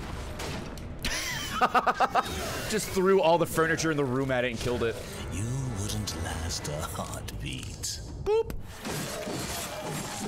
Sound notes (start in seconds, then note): 1.2 laughs